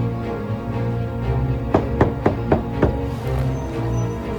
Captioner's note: knocking